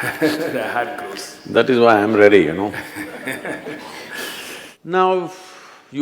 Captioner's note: laughs; few Laugh